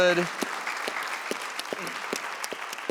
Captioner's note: audience clapping